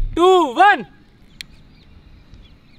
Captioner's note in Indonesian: klik